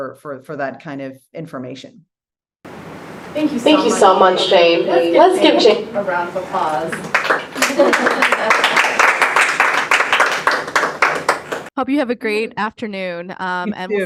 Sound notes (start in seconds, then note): 6.8 attendees applauding